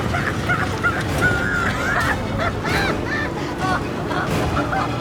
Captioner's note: Walter cackling; dramatic music continues